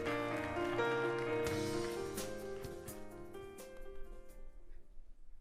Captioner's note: applauding